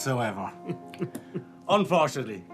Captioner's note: chuckles